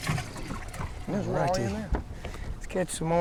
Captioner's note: fish splashing